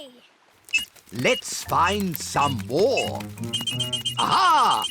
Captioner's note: beeps slowly; beeps quickly